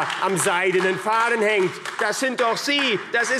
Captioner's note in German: Beifall AfD